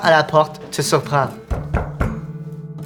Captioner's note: three knocks